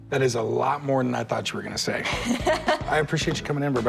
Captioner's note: laughs